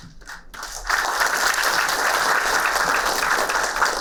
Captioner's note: applauding